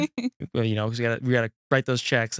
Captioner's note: laughs